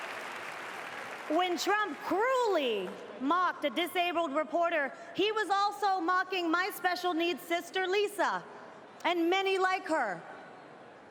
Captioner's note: cheers andndpplause